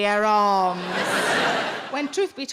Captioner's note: audience laughing